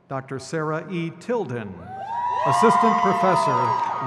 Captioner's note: crowd cheers